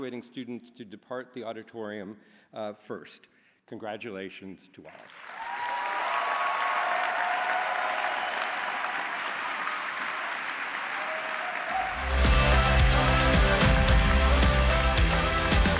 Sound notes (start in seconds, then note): 5.4 cheering; 12.0 bright music